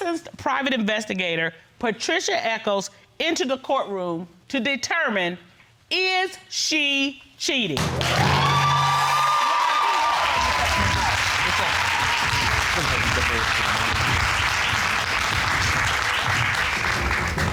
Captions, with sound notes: licensed private investigator Patricia Echols into the courtroom to determine is she cheating? (AUDIENCE APPLAUDING)